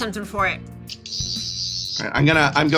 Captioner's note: Sonic Screwdriver noise